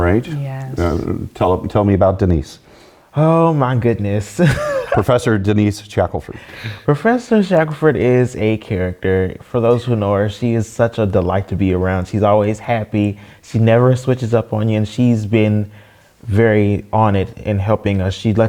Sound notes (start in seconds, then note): 4.4 laugh